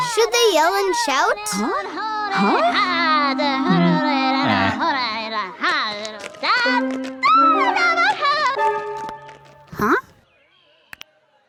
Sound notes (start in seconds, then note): 0.4 voiceover; 6.4 woman speaking loudly